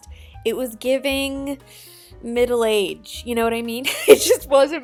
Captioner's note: laughs